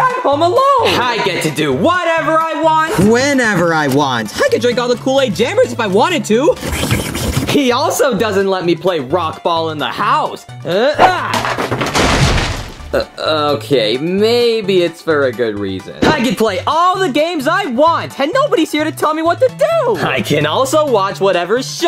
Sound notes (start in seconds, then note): 6.6 slurps; 10.6 grunts playfully; 11.0 house items smash